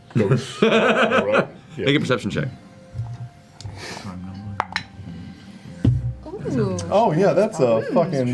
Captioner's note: laughing